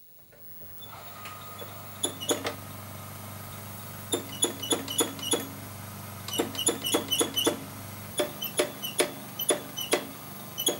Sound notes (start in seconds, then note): 4.2 squeaking sounds